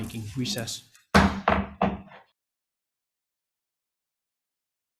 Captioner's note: gavel tapping